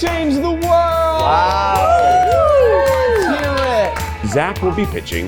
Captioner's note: everyone cheering